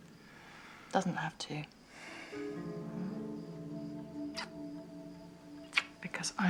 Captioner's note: John sighs